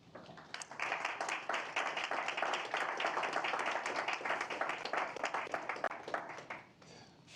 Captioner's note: applause